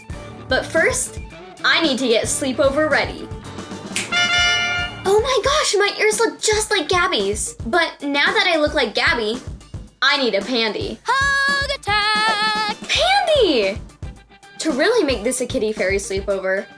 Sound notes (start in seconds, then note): 4.0 honking